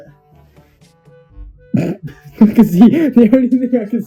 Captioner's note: laughs